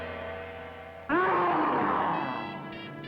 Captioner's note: mummy growls